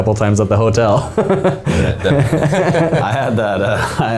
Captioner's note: men laughing